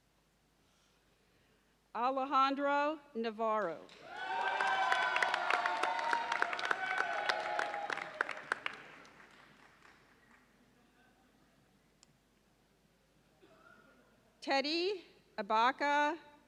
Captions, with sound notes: Alejandro Navarro. (audience cheers and applauds) Teddy Abakah Ntaamah.